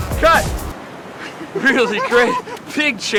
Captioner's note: laughs